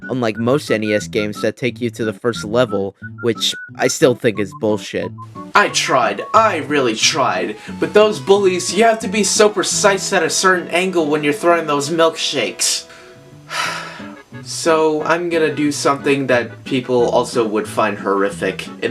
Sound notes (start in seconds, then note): 13.5 sigh